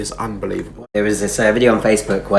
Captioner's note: none